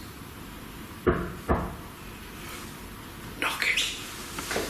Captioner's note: banging sound